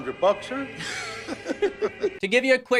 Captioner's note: both laughing